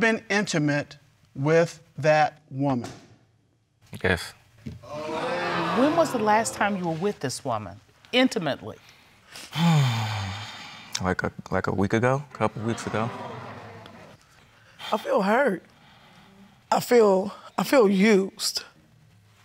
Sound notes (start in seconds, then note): 4.8 audience exclaims; 9.4 sighs